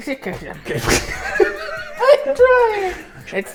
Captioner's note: hysterical laughter